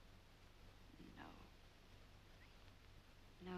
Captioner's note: whispering